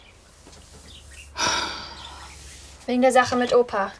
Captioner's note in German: Sie seufzt